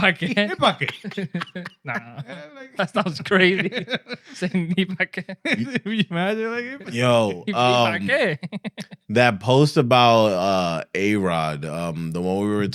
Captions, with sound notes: (Speaking In Foreign Language) Hit bucket. (Laughing) Nah. That sounds crazy. (Laughing) (Speaking In Foreign Language) You mad? (Speaking In Foreign Language) Hit bucket. Hit bucket. That post about A-Rod, the one we were